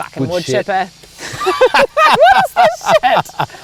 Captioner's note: laughing